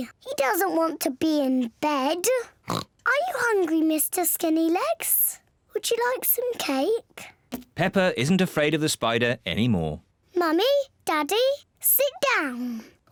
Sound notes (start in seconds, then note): 2.6 oinks